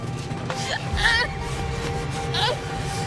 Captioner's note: crying